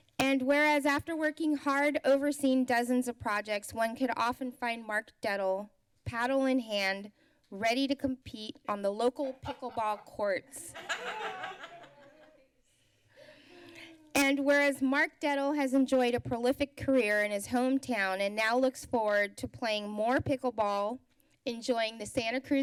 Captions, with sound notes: And whereas, after working hard, overseeing dozens of projects, one could often find Mark Dettle paddle in hand ready to compete on the local pickleball courts [laughs] [sighs] And whereas Mark Dettle has enjoyed a prolific career in his hometown and now looks forward to playing more pickle ball, enjoying the Santa Cruz